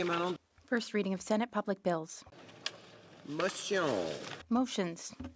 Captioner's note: speaking French